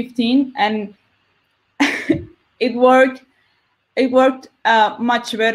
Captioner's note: laughs